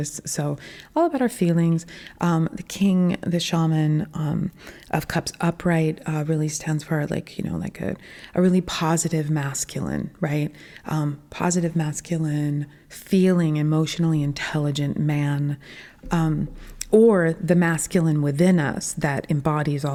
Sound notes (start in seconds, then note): none